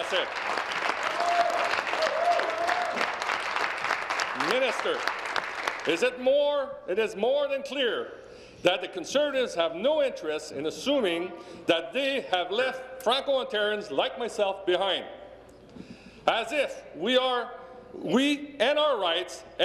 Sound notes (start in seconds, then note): 4.7 speaking in French; 5.5 applause